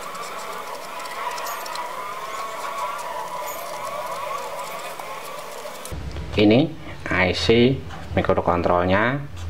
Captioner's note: clap